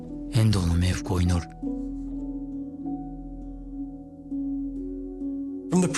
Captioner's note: flowing music; voice of speaking in Japanese